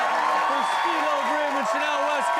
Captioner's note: audience cheers